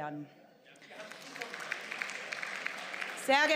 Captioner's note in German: Beifall